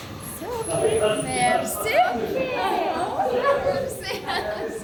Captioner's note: in Armenian